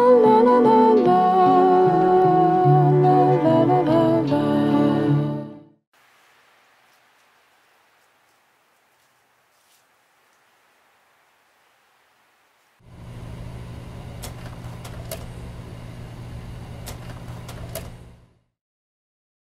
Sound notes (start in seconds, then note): 0.0 light folk music; 12.8 projector whirring